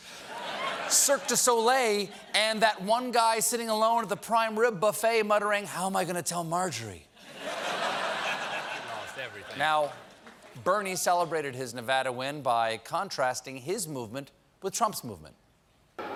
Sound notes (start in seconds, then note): 7.2 laughter